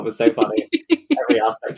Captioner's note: laughs